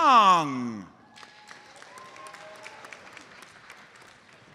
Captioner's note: audience applauds